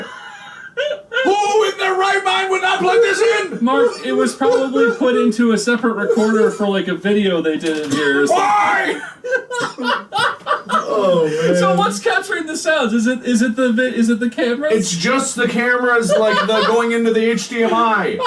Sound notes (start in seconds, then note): 9.5 more cackles